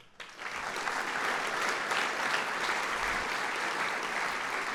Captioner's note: applause